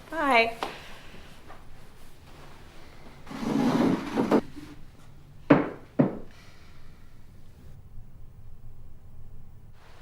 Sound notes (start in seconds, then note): 4.9 chairs tapping